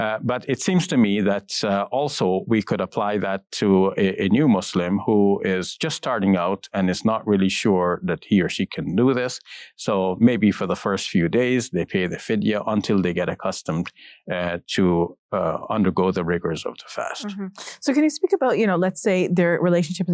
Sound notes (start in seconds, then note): 12.1 speaks in foreign language